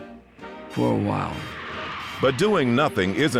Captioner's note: airplane engines rumbling